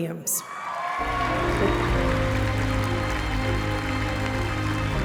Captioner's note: applause, cheering